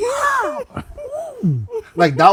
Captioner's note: screaming